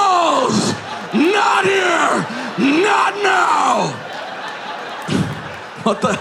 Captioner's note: audience laughing